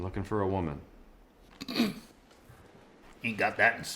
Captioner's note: grunts